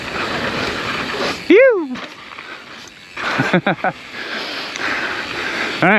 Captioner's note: bike wheel skirts; biker shouts and laughs